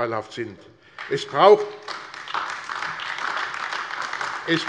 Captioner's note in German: Beifall AfD